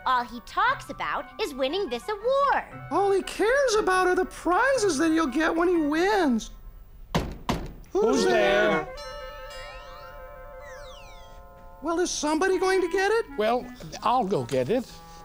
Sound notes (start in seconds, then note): 7.1 knocking on door; 9.0 doorbell